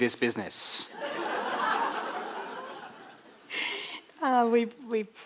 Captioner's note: audience laughing